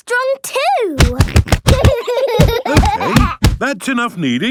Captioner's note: banging